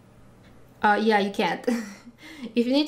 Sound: chuckling

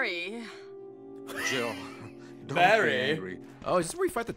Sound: laughs

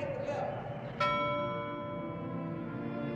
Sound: bell dings

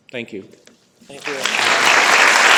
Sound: applause

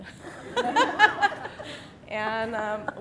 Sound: audience laughing

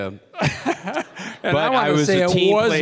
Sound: Bob laughing

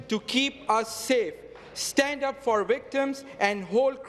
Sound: some applause

